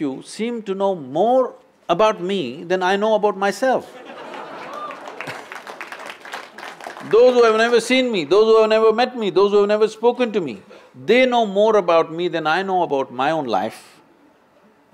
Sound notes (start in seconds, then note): 3.9 laughter/Applause